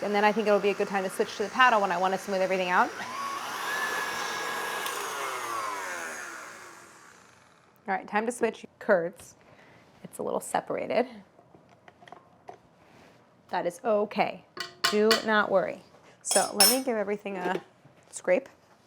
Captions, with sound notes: and then I think it will be a good time to switch to the paddle when I want to smooth everything out. (machine whirring) All right, time to switch kurds. It's a little separated. That is okay. Do not worry. So, let me give everything a scrape.